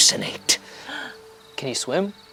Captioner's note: gasps